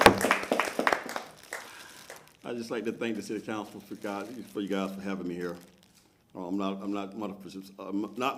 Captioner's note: applause